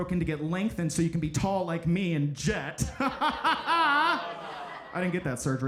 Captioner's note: laughs maniacally